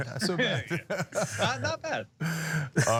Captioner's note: laugh